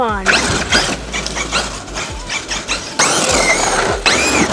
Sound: tires whirring

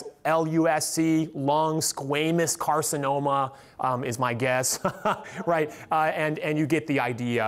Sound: laughs

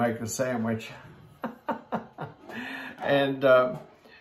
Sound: laughs

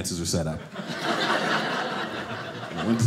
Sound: audience laughing

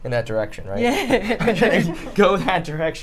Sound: both laugh

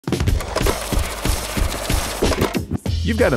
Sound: money counting machine whir

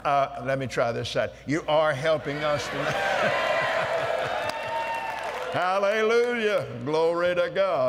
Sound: cheers & Applause

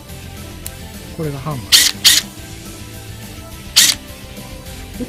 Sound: vibration drill

